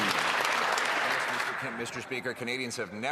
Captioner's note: cheering and Applause